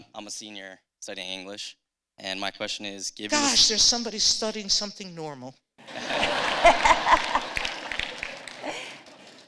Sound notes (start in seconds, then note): 5.8 laughter